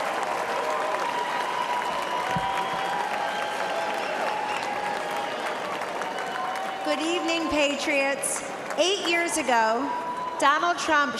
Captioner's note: applause